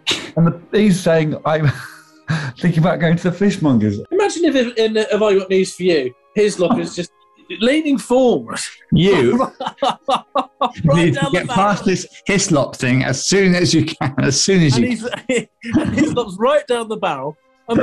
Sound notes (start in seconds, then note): 2.3 laughing; 2.3 chuckling; 6.6 giggling; 8.5 laughing; 14.9 laughing